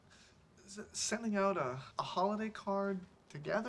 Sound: none

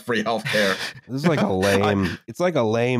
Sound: laughs

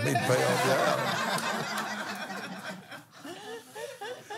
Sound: laughs

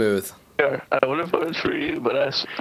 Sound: voiceover

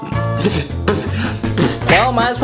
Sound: spitting sounds

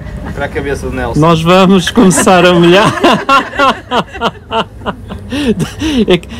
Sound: loud laughter

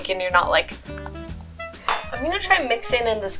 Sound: biting

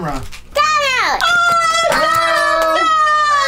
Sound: everyone screaming

